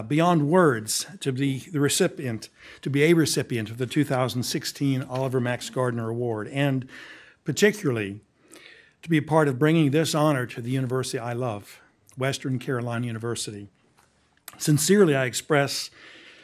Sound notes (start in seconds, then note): none